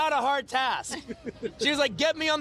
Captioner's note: interviewer laughing